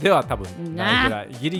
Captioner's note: angry noises